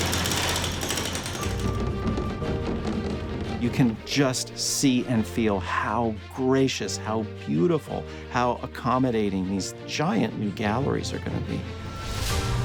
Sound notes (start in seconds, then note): 0.0 stones crashing; 0.0 machines whirring; 1.4 upbeat music; 2.1 wheels rumbling